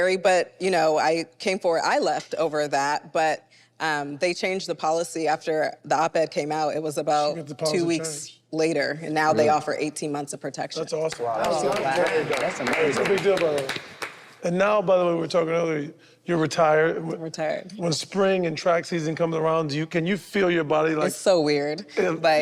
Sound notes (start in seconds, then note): 11.0 group claps; 21.9 group laughs